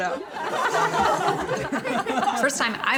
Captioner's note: people laughing